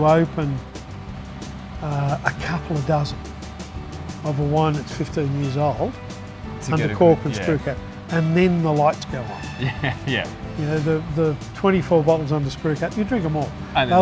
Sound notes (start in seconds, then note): 9.5 chuckles